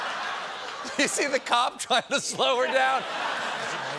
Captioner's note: laughter